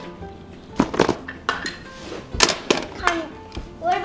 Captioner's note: clanking of toys